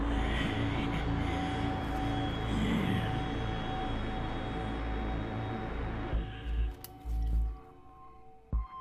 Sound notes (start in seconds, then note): 0.7 JUJU grumbles